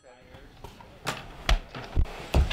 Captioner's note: leg smack